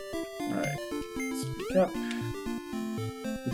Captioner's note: none